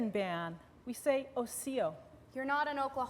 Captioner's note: non-english